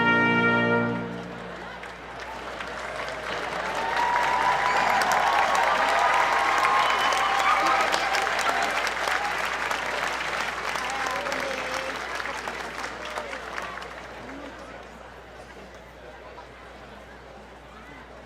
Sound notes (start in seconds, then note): 3.4 applause